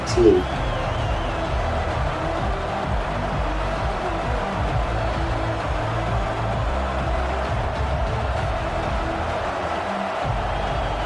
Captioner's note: crowd Noises